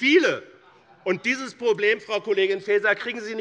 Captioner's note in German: Zurufe von der SPD